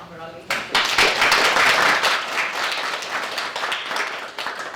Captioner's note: applause